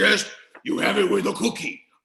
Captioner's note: In Cookie Monster Voice